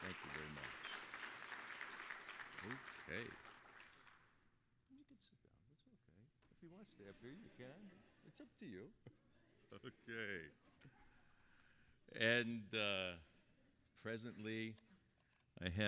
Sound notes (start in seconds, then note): 7.9 audience laughing; 9.4 laughing